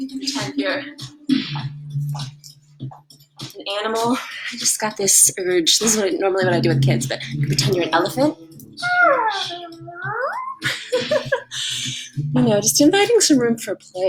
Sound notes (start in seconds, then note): 8.7 attempt at an elephant noise; 12.1 laugh